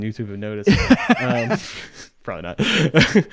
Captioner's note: laughing